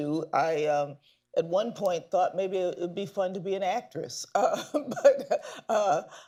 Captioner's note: laughs